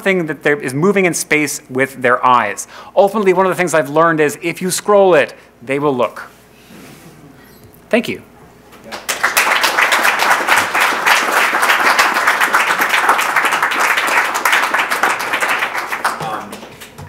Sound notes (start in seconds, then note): 8.8 crowd clapping